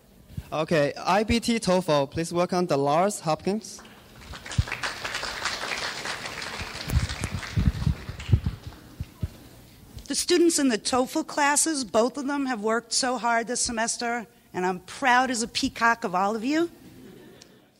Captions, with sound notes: - Okay, IBT TOEFL, please welcome Dolores Hopkins. (clapping) - The students in the TOEFL classes, both of them, have worked so hard this semester and I'm proud as a peacock of all of you.